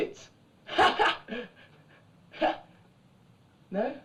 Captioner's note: laughing